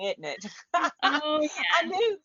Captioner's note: laughs